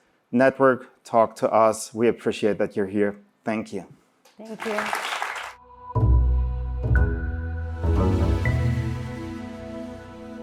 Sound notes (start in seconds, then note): 4.4 applause; 5.5 audio logo